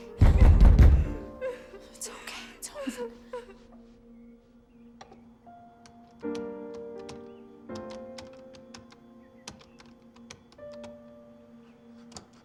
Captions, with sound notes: - It's okay. It's okay, it's over. (gentle music) (keyboard clacking)